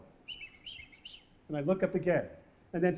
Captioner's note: whistling